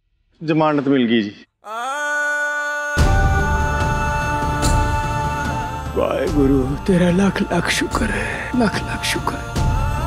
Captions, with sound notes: She's got bail. [emotional vocalising] Lord, thank you so much!